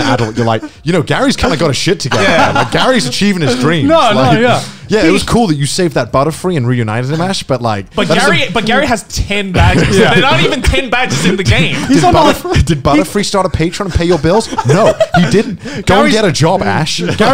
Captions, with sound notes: "Gary is kind of got his shit together." (laughing loudly) Like Gary's achieving his dream. - No, no. - Yeah. Yeah, it was cool that you saved that Butterfree and reunited it with Ash. But like- - But Gary has 10 bags, there are not even 10 bags in the game. - Did Butterfree start a patron to pay your bills? No he didn't, go and get a job Ash.